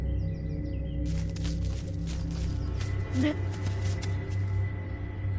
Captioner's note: footsteps thumping